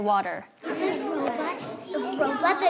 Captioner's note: children chatter